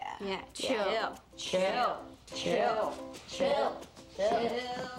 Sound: chanting

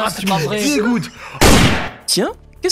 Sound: gun sound

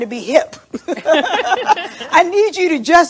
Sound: laughs

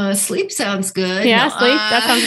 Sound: laughs

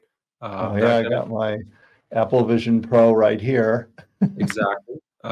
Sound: laughs

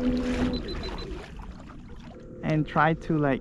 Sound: beeping

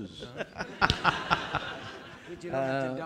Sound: audience laughing

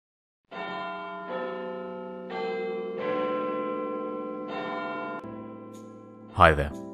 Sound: Big Ben chiming

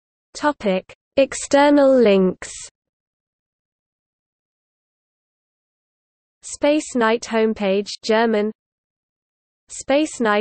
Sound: German

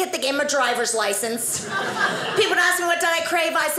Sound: audience laughing

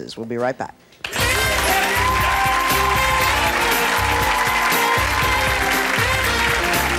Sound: upbeat music; audience cheering

